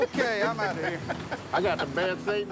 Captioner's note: laughs